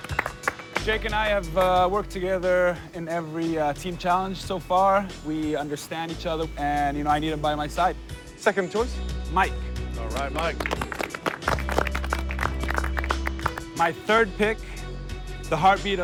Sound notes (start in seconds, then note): 10.1 applause